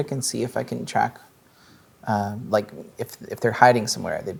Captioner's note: none